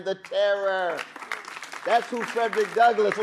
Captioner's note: audience applauding